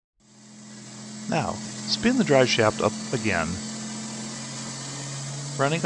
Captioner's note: engine noise